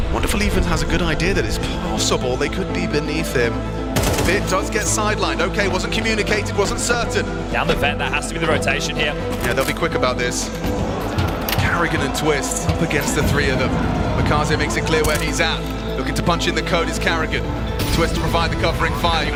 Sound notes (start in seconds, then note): 4.0 gun firing